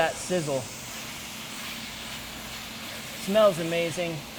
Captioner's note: meat sizzles